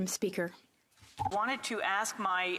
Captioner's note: speaking French